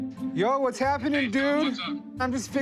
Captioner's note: on phone